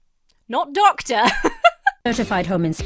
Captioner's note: laughs